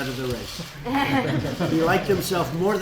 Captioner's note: laughter